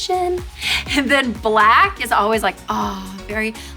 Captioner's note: sighs